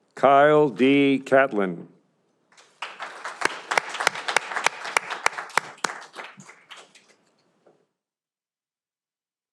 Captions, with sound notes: Kyle D Katlan. (audience applauding)